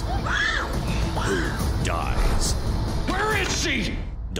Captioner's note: screams